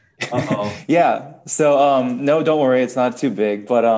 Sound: laughing

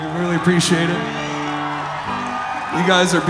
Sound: crowd cheering

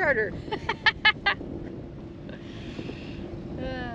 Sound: laughter

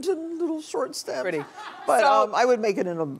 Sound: audience laughs

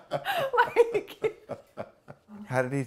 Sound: laughter

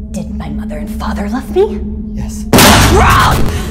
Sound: popping

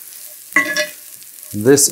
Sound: mushrooms sizzling

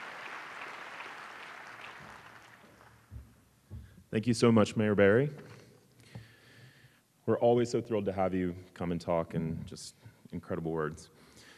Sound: applause

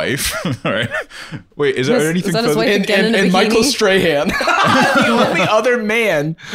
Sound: laughing

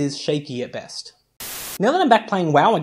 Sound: Static

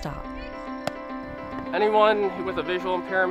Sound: bat cracks

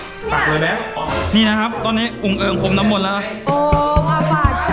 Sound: pat

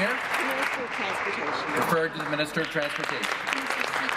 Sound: applause

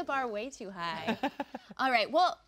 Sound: laughing

